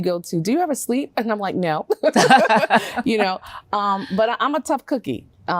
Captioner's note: chuckles